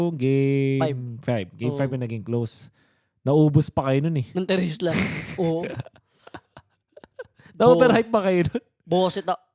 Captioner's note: laughs